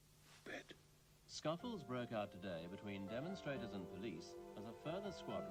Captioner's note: radio news